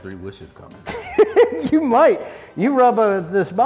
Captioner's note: laughing